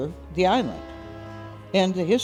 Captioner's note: horn blares